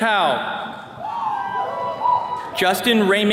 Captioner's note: attendees cheering